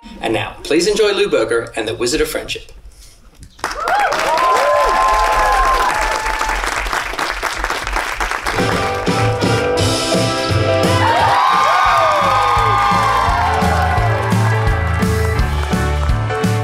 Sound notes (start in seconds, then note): 3.6 crowd cheering; 8.5 bouncy music; 10.4 crowd cheering